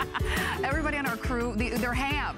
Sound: laughter

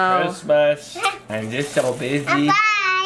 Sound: child laughs

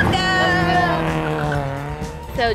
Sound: engine humming; upbeat music

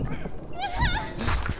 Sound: Garnet screams

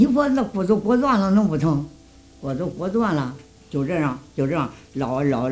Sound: speaking foreign language

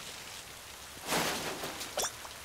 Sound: clattering

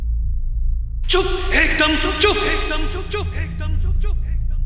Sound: echoing

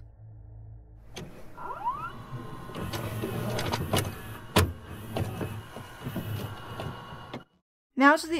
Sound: VHS noises

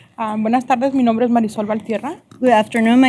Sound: speaking spanish

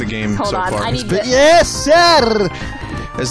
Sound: RP guy voice

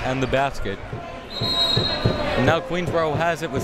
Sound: whistle tweeting

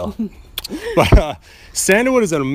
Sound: laughs

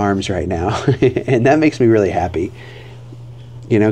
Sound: laughs

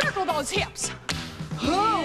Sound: hands clapping

